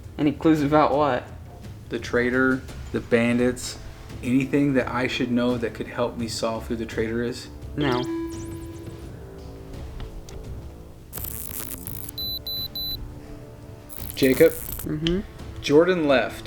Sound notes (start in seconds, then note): 9.0 detector chimes; 11.1 detector beeps